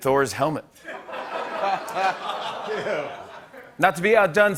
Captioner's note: laughter